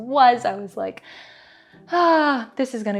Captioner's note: deep breath